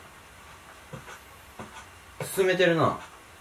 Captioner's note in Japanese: 足音